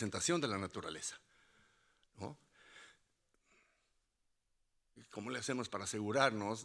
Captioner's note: speaking Spanish continues